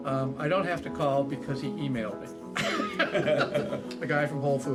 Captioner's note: laughing